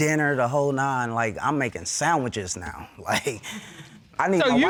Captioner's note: chuckles